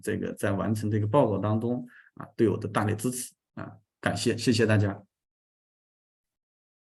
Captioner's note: continues to speak in Chinese